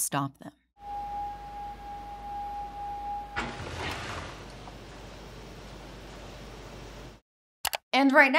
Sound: mechanical humming

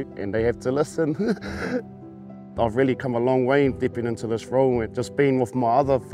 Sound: happy laughter

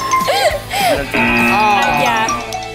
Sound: app chimes; actors laughing; app buzzes

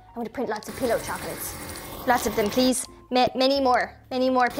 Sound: none

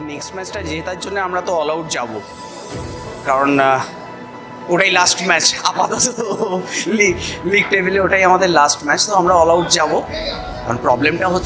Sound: awkwardly laughs

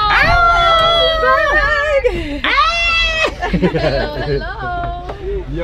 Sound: people laughing

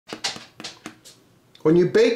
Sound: potatoes thudding together

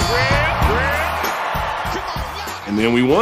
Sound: audience cheers

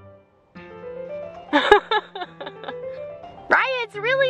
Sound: laughing

